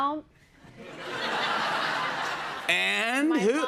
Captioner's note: laughter